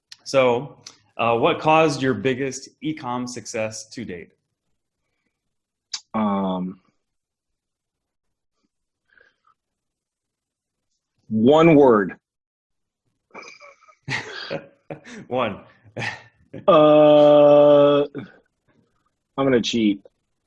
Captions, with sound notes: So what caused your biggest e-comm success to date? - One word? (laughs) - One. - Uh, I'm gonna cheat.